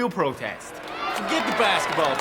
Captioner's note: students cheering